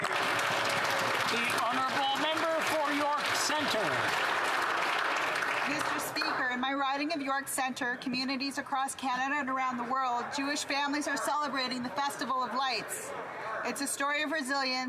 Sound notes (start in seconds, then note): 2.5 applause